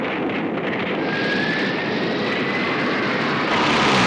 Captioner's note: zooming